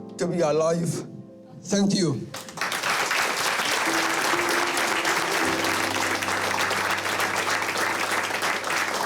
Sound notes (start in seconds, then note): 2.3 applause